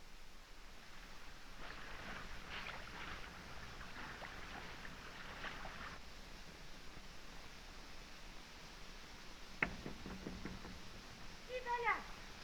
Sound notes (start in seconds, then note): 9.6 knocking on door; 11.2 woman speaking in french